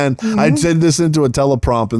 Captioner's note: laughing